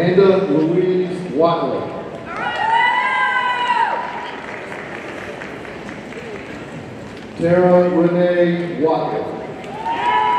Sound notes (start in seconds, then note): 3.8 audience applauding; 9.7 audience cheering